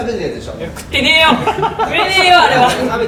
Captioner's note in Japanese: スタッフの笑い声